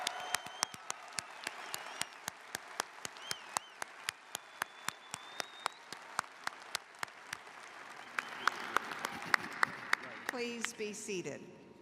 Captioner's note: cheers and applause